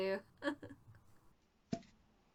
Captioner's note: fake cries but not really